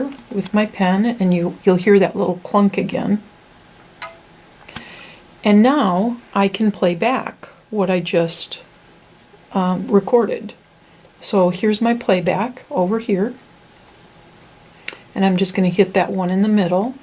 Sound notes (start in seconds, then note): 4.0 ding noise